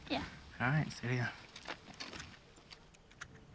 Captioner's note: murmurs